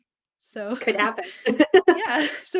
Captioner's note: both laughing